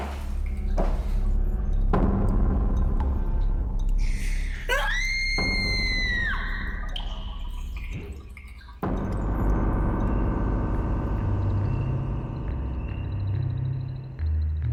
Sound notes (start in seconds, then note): 4.1 screaming; 11.9 eerie music